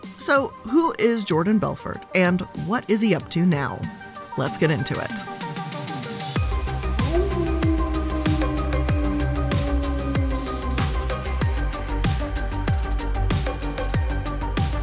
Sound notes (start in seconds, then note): 6.4 wolf howling; 7.0 upbeat music